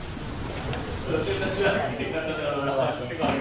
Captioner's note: cafe atmosphere, in the background